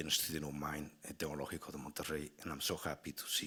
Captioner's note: speaking Spanish